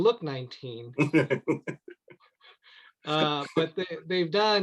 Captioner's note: laughs